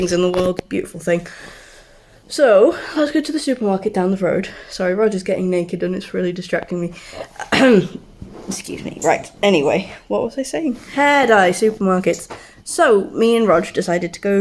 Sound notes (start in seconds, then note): 7.2 clears throat